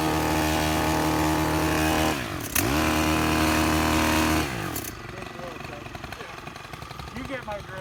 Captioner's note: machine whirring